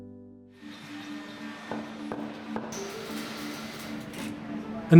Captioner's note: sounds of machinery, hammering, welding